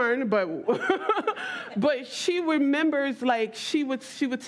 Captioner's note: laughs